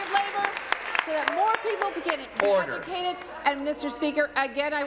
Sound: applause

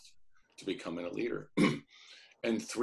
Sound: clears throat

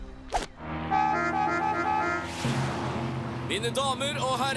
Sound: horn honking

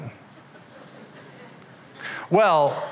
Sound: laughter

